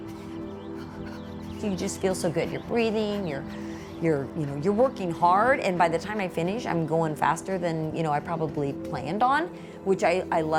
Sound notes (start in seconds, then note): 1.8 runner heavy breathing